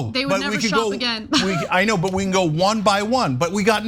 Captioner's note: laugh